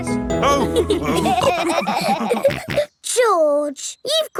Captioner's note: all laughing